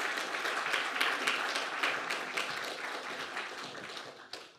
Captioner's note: audience applauding